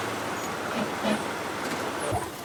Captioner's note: vehicle brakes